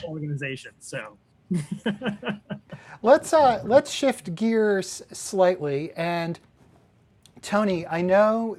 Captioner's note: laughter